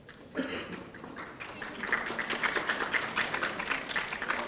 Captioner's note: audience applauding